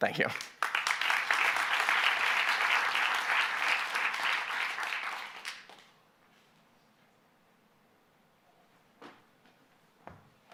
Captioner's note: applause